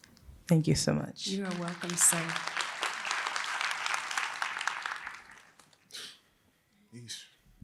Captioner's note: applause